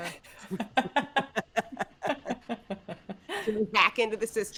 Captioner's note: all chuckling